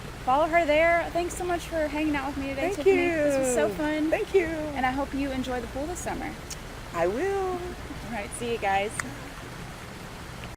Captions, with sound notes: Follow her there. Thanks for much for hanging out with me today, Tiffany. This was so fun. I hope you enjoy the pool this summer. I will! Okay, see you guys. [waves]